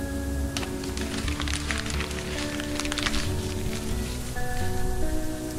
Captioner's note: paper crumpling